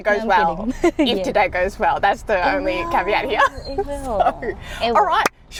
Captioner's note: laughs